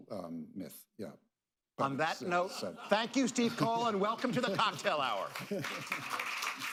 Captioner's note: applause